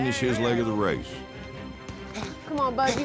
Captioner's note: footsteps